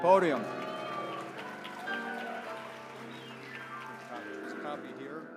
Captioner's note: applause